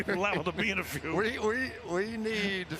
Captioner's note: laughs